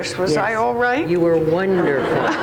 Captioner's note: audience laughs